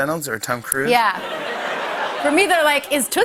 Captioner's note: laughter